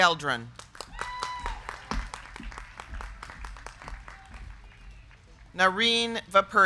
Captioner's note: crowd clapping; crowd cheering